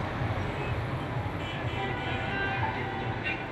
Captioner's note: traffic noises